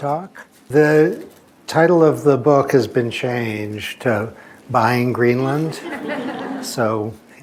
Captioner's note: laughter